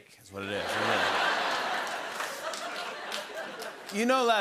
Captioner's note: laughter